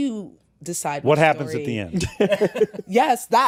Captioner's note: laughter